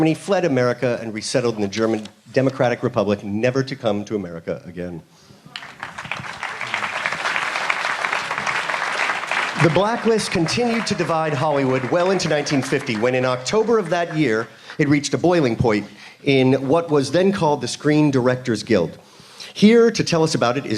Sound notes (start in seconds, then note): 9.7 applause